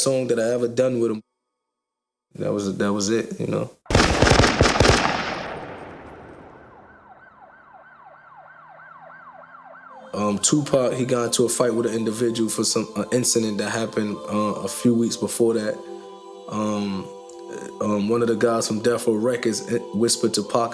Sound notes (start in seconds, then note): 3.9 gunshots firing; 5.4 sirens blaring